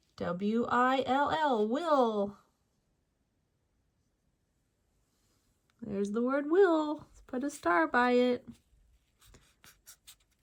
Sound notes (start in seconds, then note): none